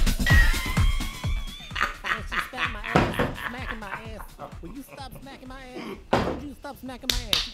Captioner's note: laughter, sound of TV slapstick, knee-slapping